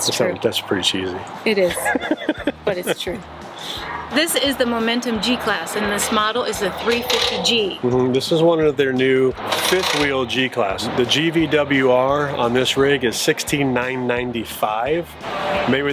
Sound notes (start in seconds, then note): 1.6 laughs